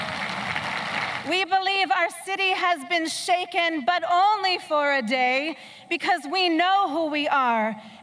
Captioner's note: applause